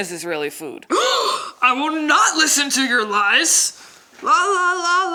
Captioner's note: gasps